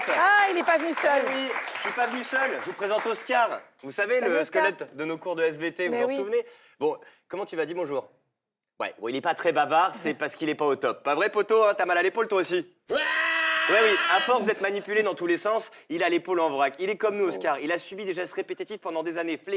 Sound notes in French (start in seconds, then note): 0.0 applaudissements; 12.9 cri